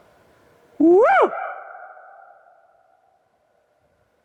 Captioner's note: echoes